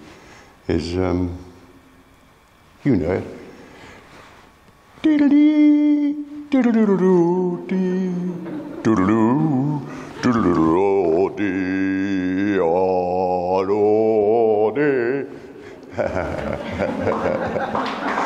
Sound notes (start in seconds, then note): 11.9 laughs; 12.9 applause